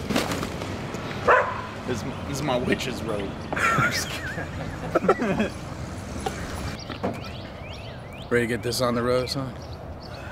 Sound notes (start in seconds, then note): 3.5 both laughing